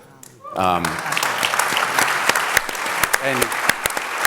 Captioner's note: audience applauds